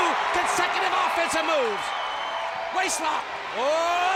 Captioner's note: audience cheers